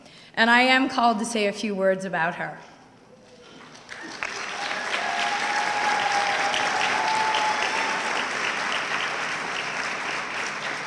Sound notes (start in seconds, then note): 3.6 audience clapping